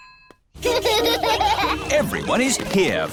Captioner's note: children laughing